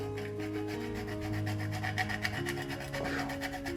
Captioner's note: nutmeg grinding